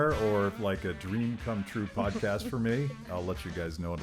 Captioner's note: laughing